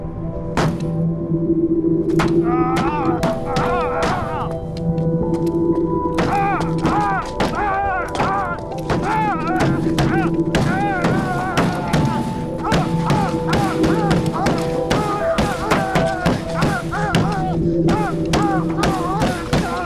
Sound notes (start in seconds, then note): 2.7 punching; 4.0 yelling; 5.6 yelling, grunting